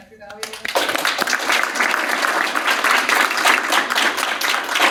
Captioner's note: audience applauding